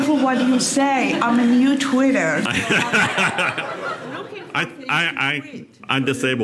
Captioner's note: crowd Laughing